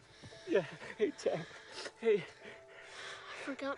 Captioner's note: gasps